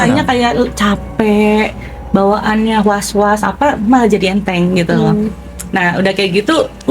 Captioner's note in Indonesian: berdehem